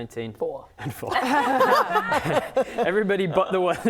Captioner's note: laughing